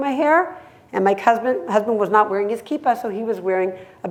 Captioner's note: hebrew